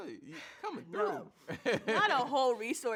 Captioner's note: laughs